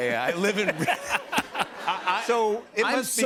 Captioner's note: laughter